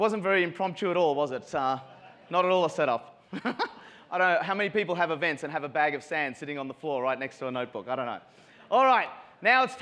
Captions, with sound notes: It wasn't very impromptu at all, was it? Not at all a set up (giggles). How many people have events and have a bag of sand sitting on the floor right next to a Notebook? I don't know.